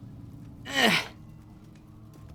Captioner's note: grunts